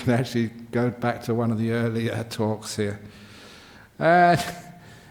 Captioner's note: chuckles